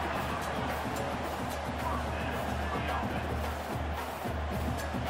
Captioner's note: crowd cheering